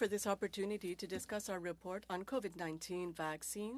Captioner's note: speaking French